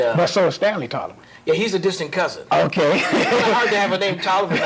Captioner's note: laughter